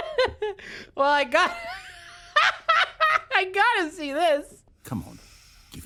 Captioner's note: laughing